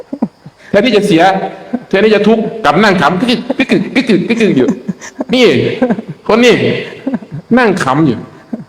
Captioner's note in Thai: เสียงหัวเราะ